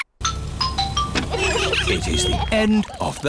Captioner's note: trumpets; horns honking